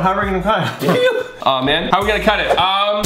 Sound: screeches

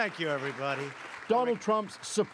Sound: applause

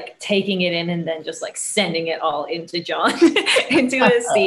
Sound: laughing

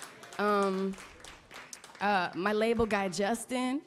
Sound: applause

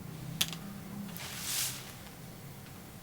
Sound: spraying water

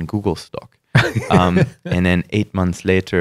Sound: laughter

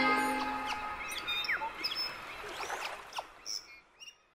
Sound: bird chirping

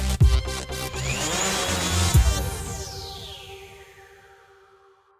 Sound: upbeat music plays; drone engine

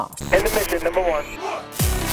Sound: radio Chatter

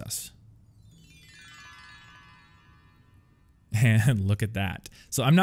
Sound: magical bells

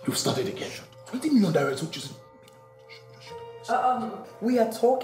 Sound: discussing in whispers

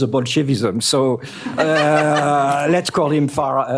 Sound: laughter

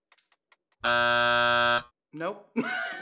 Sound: buzzer; laughs

